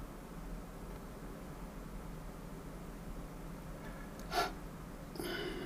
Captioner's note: sniffing